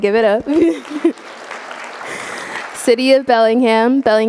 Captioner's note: audience applauding